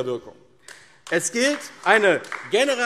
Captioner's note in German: Beifall AfD